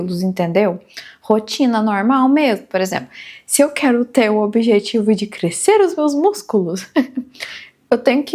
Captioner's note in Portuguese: risadas